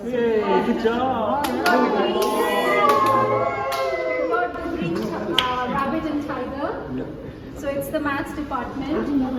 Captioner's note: cheer; cheers